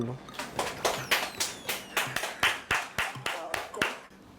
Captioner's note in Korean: 쏟아지는 박수갈채